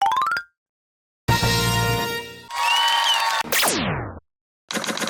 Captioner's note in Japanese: 拍手